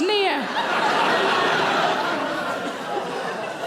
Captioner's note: audience laughing